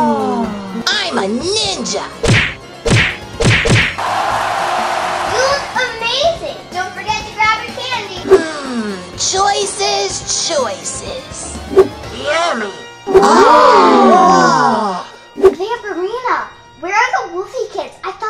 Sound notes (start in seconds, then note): 4.0 cheering